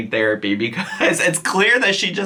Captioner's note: chuckles